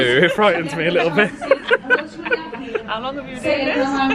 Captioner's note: both laughing